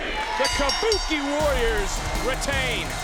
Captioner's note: bell ring